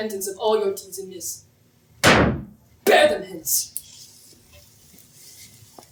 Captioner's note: sticks pound on ground